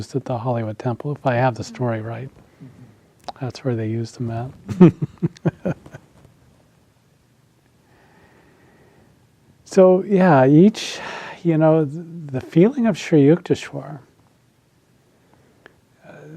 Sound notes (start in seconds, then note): 4.7 laughs